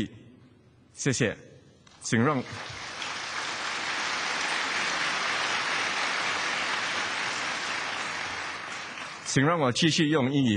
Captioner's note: 掌声